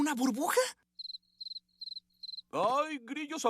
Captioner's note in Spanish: Grillos.mp3